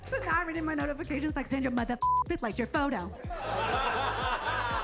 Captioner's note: beep